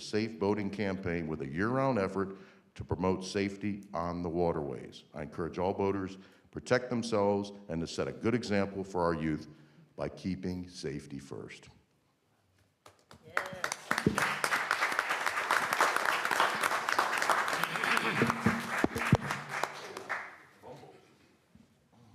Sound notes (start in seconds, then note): 12.8 applause